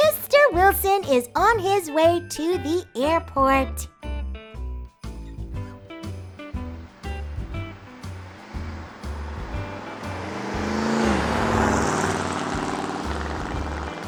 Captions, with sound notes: Mr. Wilson is on his way to the airport. (engine roaring)